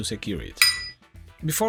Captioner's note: bell sound